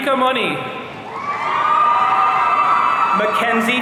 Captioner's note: audience cheering